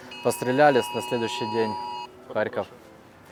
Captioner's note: air raid siren sounds